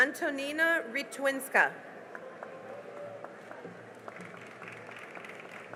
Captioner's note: cheering and applause